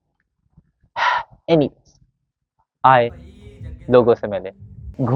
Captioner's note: sigh